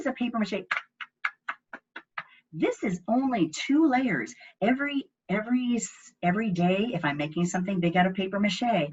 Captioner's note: tap, tap, tap, tap, tap, tap, tap